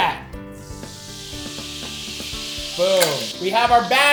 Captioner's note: fat sizzling